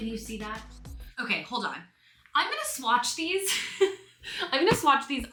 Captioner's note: laughs